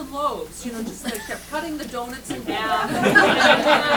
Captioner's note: laughter